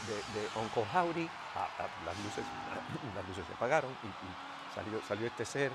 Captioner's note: cough